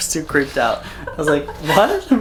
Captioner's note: laughs